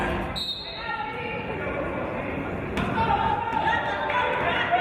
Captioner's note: referee's whistle